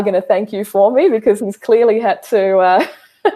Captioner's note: laughs